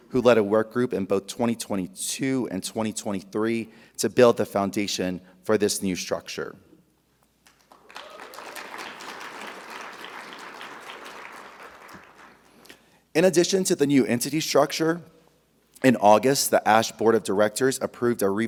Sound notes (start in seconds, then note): 7.5 audience applauding; 7.7 audience cheering